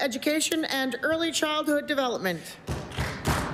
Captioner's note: applause